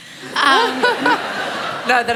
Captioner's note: laughter